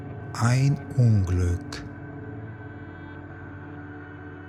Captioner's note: german